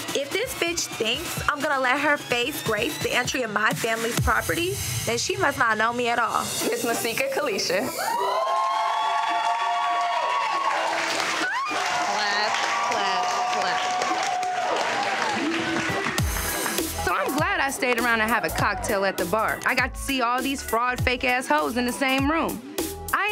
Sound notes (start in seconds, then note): 8.4 crowd cheering